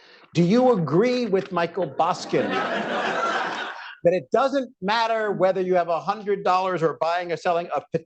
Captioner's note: laughter